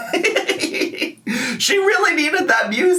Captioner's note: laughs